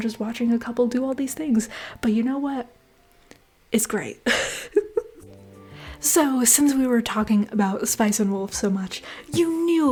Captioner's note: laughter